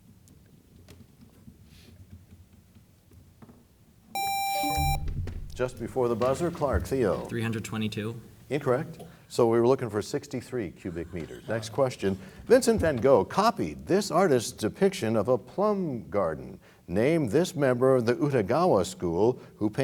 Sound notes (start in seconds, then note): 2.4 bell chimes; 2.4 buzzer sound